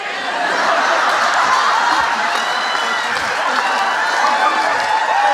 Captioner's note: audience laughing and cheering